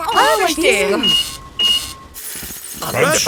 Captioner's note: cash register beeping